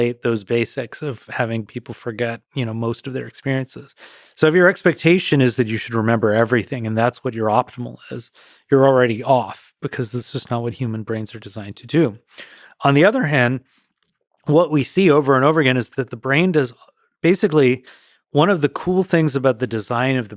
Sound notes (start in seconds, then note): none